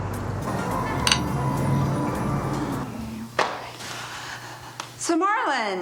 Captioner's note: glasses clink